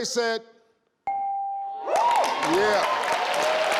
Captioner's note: bell chimes